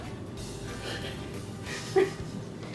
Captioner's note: laughs